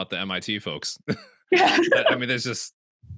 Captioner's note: laughs